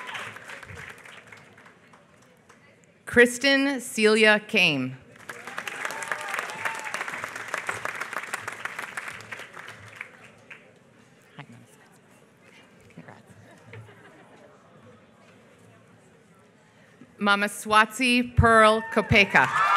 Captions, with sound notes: Kristin Celia Koehm. [APPLAUSE] Congrats. Mamaswatsi Pearl Kopeka.